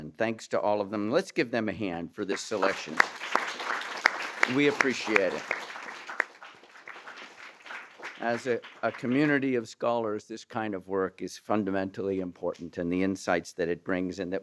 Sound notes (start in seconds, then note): 3.3 applause